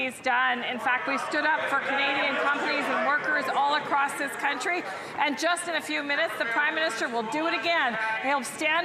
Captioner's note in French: voix de l'interprète